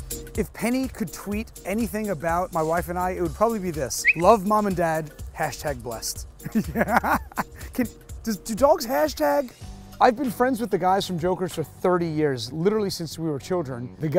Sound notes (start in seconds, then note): 6.4 laughing